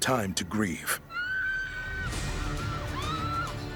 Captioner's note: screams